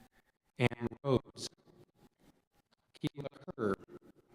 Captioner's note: audio cuts out